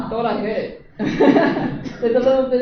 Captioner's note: laughter